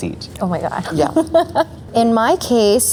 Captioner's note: laughs